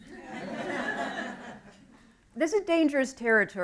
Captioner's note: laughter